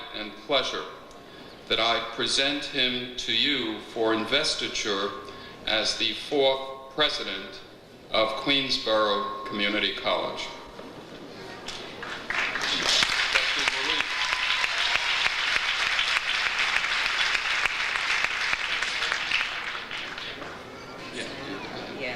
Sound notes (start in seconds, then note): 12.2 audience applauds; 15.8 audience applauds